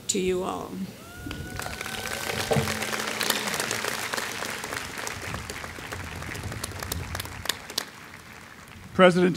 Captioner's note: applause